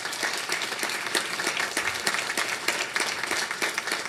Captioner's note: audience clapping